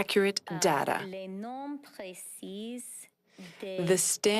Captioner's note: speaking French